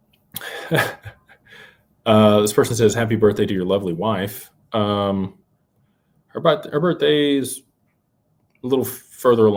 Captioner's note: laughter